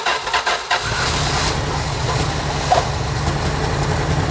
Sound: engine purrs

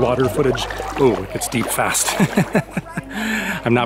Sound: laughter

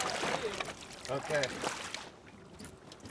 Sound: fish splashing

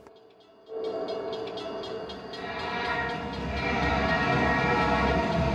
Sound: bell clanging, train whistle blows

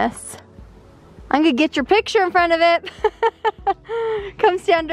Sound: laughs

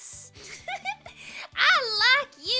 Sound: giggles

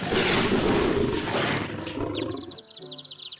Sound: birds chirping

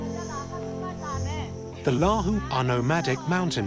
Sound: women speaking Lahu language

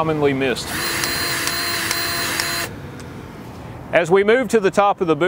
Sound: grease gun revving

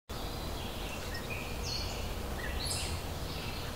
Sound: birds chirping

